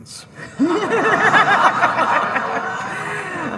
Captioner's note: all laughing